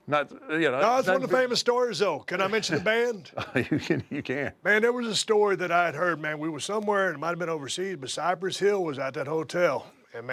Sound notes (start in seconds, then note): 3.2 laugh